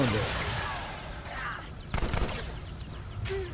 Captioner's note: gun firing